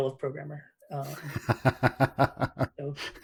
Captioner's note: laughs